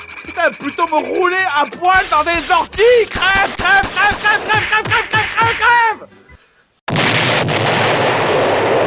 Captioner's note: explosion